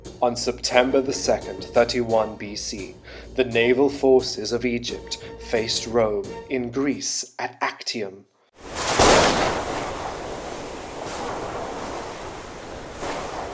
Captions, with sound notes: On September the 2nd, 31 BC, the naval forces of Egypt faced Rome in Greece at Actium. (thunder clapping)